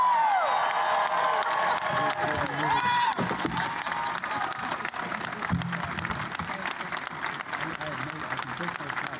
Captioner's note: applause